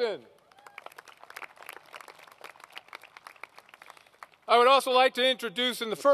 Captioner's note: applause